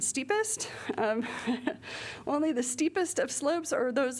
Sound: laughter

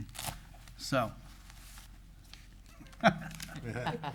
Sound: laughs

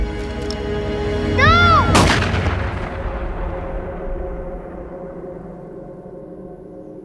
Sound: gunshot booms

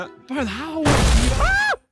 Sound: explosion sound effect

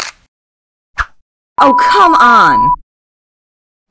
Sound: camera shutter; beeping

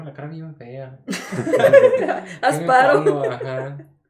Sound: laughter

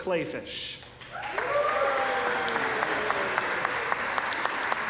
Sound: applause

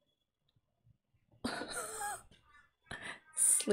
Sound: laughs

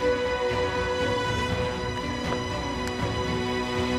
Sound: book opens

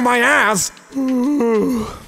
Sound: yawns

